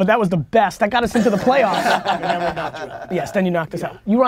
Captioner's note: group laughter